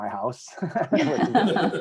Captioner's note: laughs